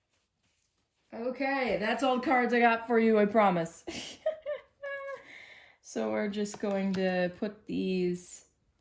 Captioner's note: giggles